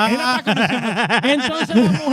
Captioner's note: laughing